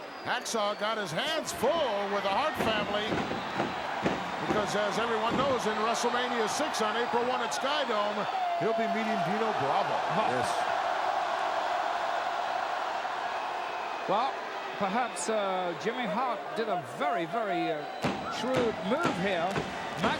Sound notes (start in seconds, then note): 11.1 crowd cheering